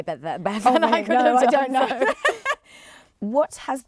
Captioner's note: laughs